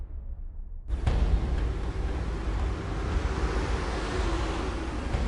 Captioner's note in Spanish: Ruido del motor del auto